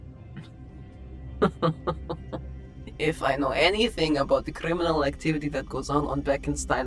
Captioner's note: chuckles